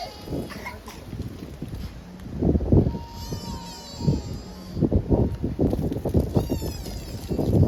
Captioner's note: laughs